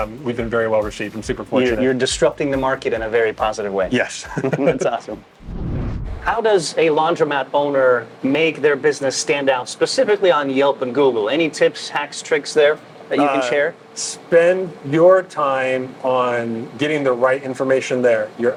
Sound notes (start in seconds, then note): 4.0 both laughing